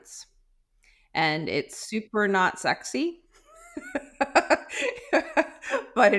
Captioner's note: laughing